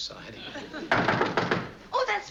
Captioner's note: knocking on door